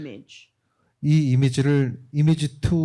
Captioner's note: speaking korean